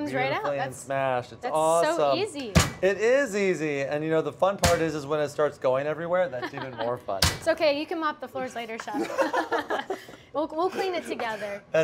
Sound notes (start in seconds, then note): 6.4 laughs; 8.9 both laugh